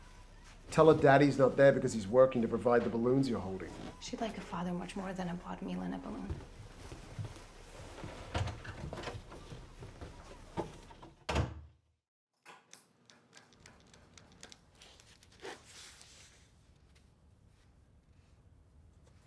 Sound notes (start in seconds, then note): 10.6 door closes; 12.7 pen clicking